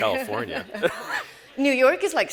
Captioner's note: all laugh